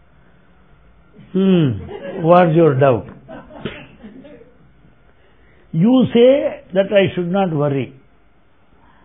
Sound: laughter

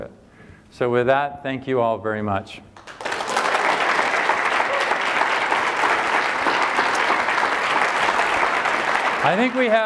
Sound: applause

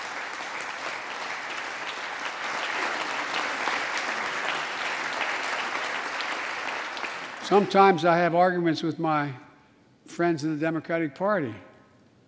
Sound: applause

